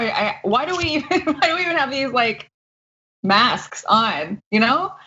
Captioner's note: laugh